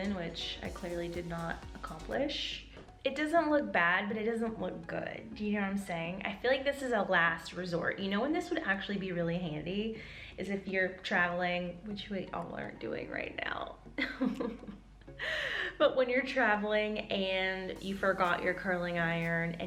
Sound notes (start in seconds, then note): 14.1 sobbing